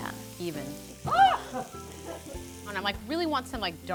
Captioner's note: gasps